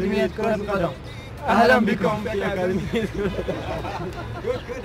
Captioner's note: speaking Arabic; laughing